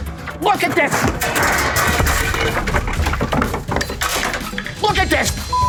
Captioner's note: clanking